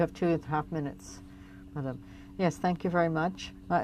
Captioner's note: speaking French